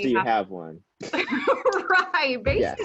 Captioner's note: laughing